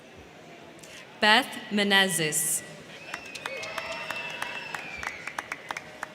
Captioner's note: crowd cheering